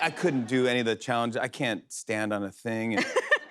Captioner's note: laughter